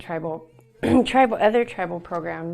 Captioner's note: clears throat